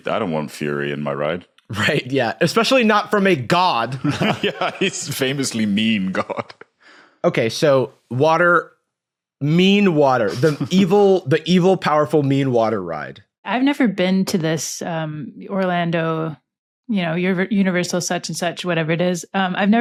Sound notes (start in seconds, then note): 4.0 laughs